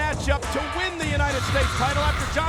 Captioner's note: graphics whooshing